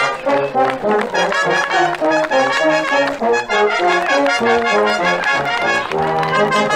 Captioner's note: audience applauding; audience members cheering